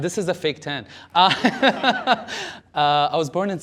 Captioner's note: laughter